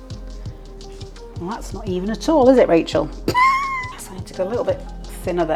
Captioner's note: laugh